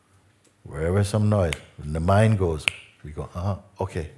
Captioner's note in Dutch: klik